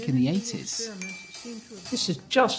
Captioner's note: ding